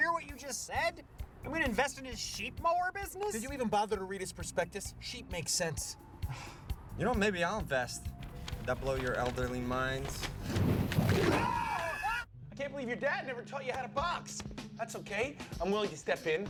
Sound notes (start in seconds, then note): 6.3 sighs; 11.2 all scream, tires screech